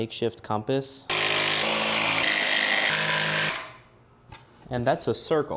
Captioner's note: more beautiful sounds of woodworking